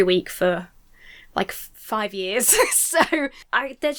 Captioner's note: laughs